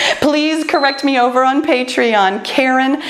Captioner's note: timer beeps